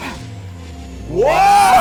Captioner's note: gasps